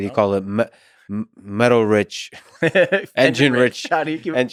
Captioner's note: Tim laughs